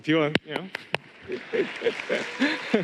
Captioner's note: applause